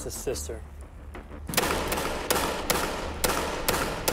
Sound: gun popping

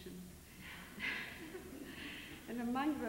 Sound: laughs

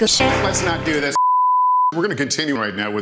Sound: bars and tone

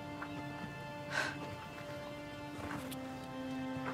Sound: quick exhale of breath

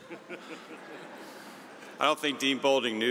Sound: audience chuckling

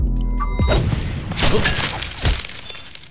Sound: whoosh and shattering glass

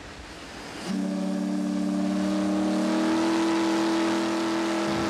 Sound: horn blows loudly

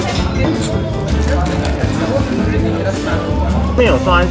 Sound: recording sound

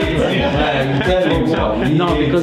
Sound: laugh

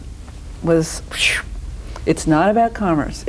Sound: animated sound

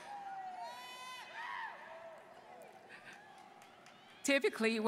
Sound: students cheering

